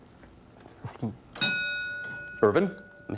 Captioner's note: ding